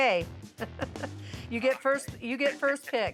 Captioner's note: chuckling